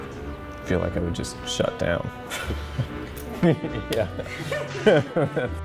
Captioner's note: laughs